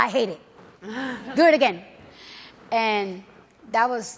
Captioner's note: audience laughs